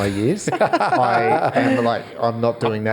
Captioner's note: all laugh